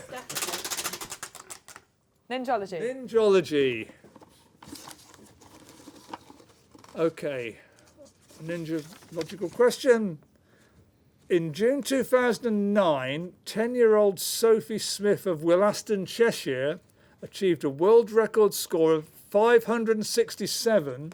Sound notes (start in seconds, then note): 0.1 ratcheting